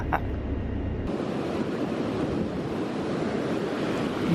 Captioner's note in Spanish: sonido del mar y la playa